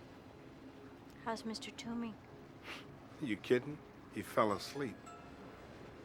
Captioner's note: scoffs